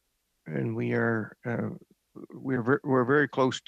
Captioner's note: speaking French